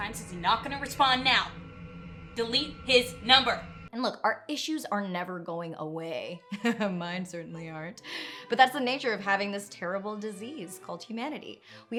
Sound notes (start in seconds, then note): 6.5 laughing